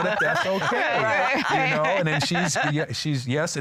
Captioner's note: laughter